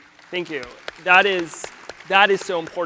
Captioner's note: audience applauds